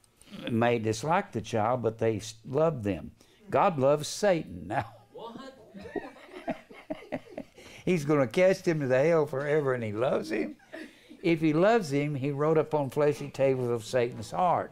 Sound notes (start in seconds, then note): 5.7 laughter